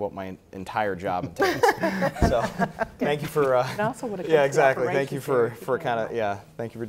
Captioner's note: panel laughter